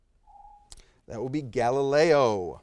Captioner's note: timer beeps